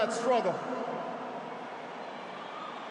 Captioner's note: applause